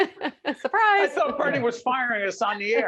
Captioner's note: laughing